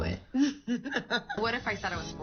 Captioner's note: laughing